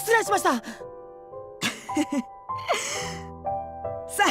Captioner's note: chuckle